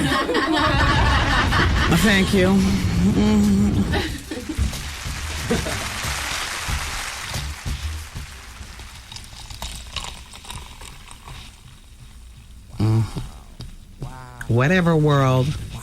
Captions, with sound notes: [Laughter] Thank you. [Applause] Whatever world.